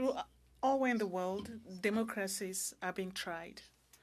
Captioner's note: speaking French